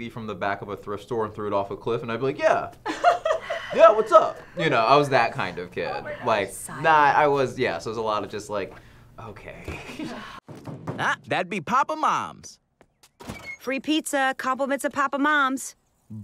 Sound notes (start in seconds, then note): 2.8 laughter; 10.5 knock at door